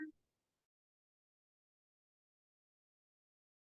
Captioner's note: audio cuts out